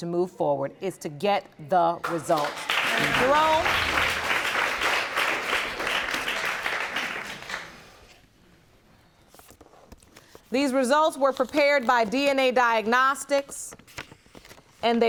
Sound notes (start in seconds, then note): 2.0 applause